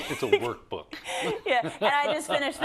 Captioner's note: laugh